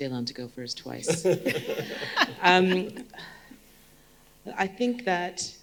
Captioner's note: group laughing